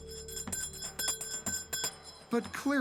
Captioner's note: bell ringing